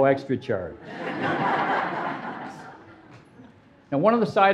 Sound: audience laughing

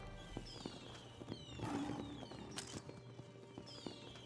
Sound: Simba Roars

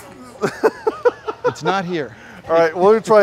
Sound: laughter

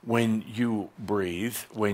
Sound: none

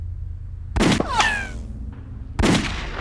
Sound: gun fires

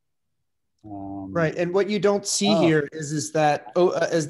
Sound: calm Voice

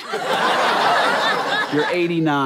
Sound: audience laughter

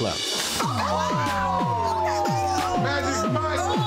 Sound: excited screaming

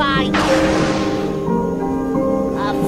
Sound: thunder

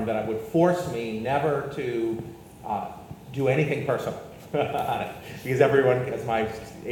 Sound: laughs

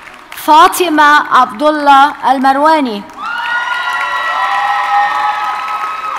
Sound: audience cheers and applauds

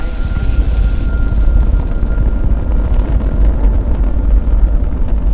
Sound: rocket rumbling

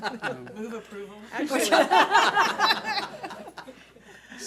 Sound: board laughs

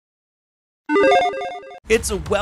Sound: video game chirping

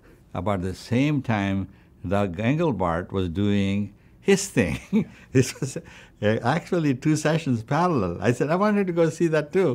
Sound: laughs

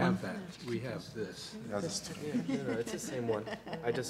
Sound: laughter

